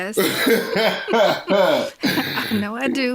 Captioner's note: both laughing